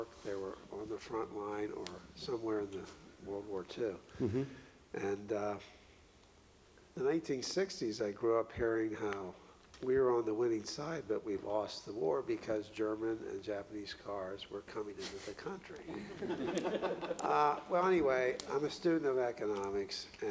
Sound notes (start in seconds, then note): 16.0 audience laughs